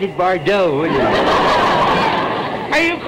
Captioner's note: audience laughter